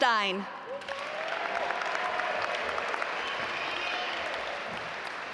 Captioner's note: audience applaud